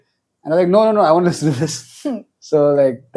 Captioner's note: laughs